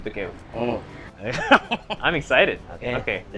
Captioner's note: chuckles